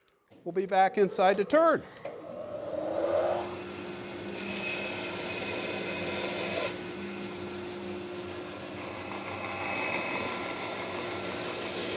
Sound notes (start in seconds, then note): 1.9 bandsaw whirring; 4.7 cutting through wood